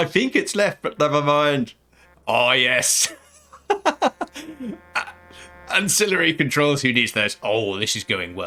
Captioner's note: miscellaneous gaming noises